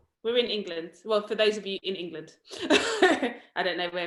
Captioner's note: laughs